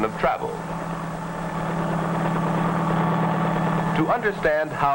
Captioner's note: helicopter blades whirring